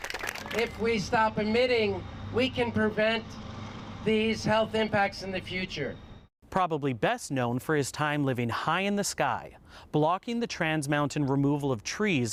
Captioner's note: cheers and applause